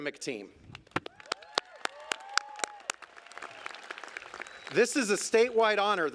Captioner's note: applause